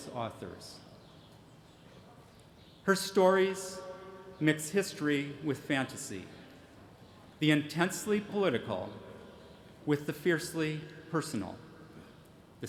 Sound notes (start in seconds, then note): none